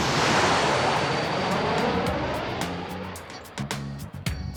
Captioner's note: none